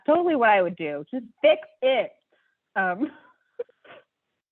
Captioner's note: laugh